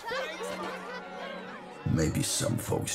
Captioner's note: shoppers exclaiming